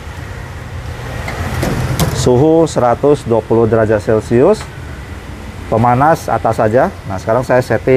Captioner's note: oven lid noise